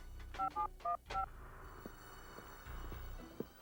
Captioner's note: dial beeping; ominous music